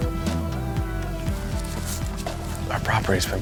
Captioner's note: footsteps pattering